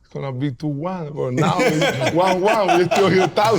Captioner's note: all laughing